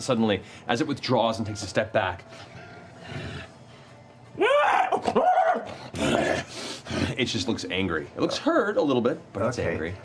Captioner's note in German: knurrt und heult